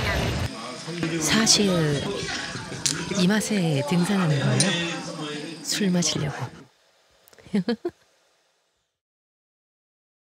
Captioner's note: laugh